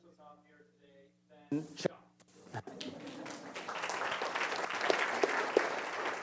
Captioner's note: applause